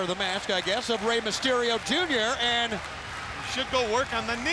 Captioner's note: audience clapping